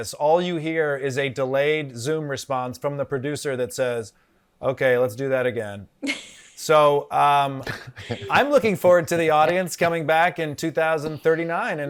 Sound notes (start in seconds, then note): 6.1 panelists laughing